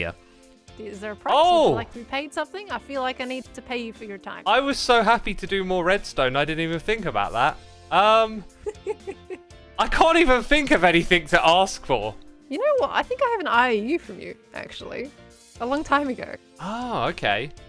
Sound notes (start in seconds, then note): 8.5 giggles